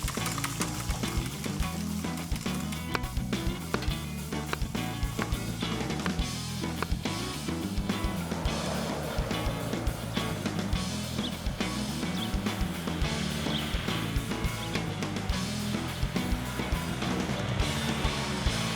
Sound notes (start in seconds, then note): 3.5 knife thudding; 3.5 upbeat music; 8.4 engine rumbling; 8.4 upbeat music